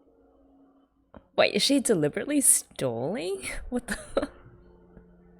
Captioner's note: laughs